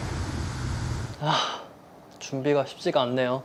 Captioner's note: sigh